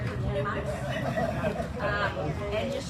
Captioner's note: audience laughs, exclaims